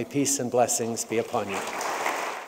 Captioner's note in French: Applaudissements